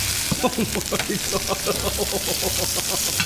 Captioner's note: sizzling; laughing